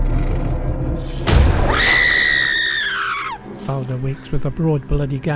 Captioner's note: scream!